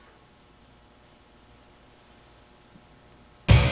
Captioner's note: silence